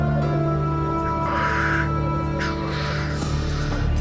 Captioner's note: squawking